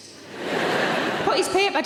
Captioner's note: audience laughs